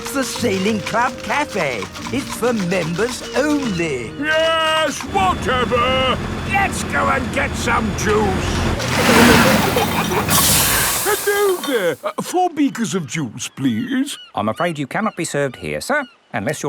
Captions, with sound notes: That's the Sailing Club Cafe! It's for members only. Yes, whatever, let's go and get some juice! (PEPPA AND GEORGE GIGGLING) (AIR HISSES) Hello there! Four beakers of juice, please. I'm afraid you cannot be served here sir,